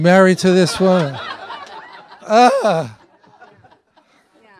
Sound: audience laughing

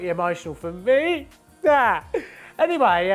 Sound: audibly cries

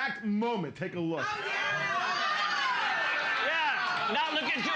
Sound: audience shouting

